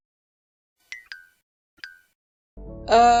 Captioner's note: cartoon blinking sounds